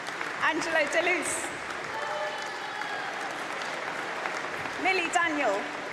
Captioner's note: applause